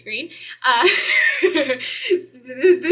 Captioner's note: laughter